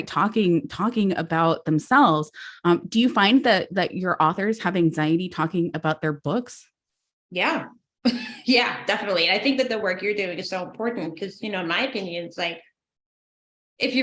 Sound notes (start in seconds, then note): 7.9 laughs